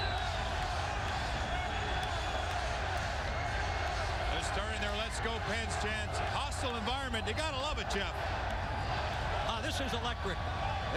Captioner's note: crowd noise